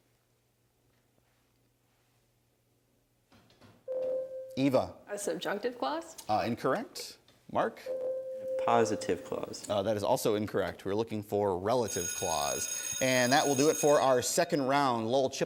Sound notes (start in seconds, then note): 3.9 ding; 11.8 bell ringing